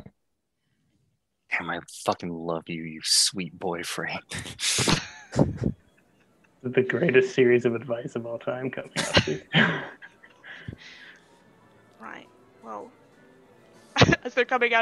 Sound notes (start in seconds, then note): 8.9 soft chuckles from the cast